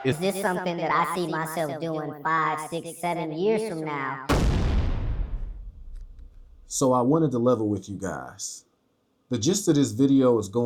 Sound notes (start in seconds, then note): 4.3 explosion